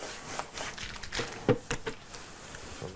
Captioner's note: knock on the bucket